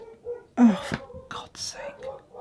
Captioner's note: dog Barking